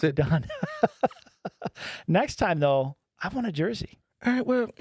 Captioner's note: laughing